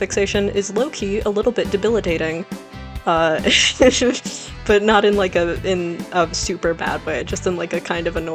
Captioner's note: laughs